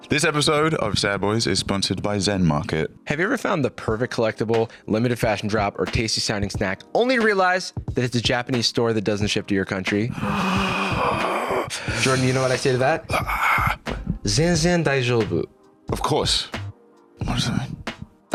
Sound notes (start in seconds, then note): 10.1 groans